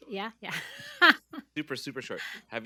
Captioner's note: chuckles